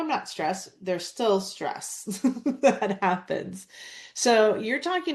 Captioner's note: laughs